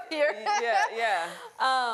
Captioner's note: laughter